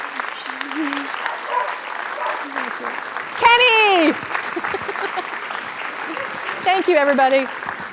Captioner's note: applause